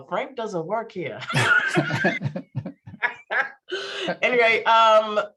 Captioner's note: laughing